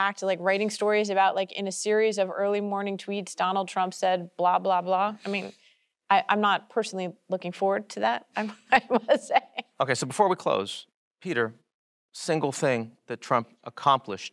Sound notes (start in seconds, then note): 8.4 laughs